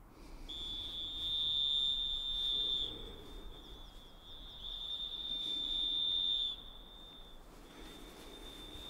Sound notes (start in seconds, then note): 0.4 whistling